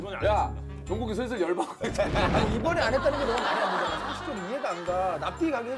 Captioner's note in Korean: 부글 부글